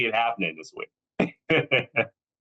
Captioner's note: laughs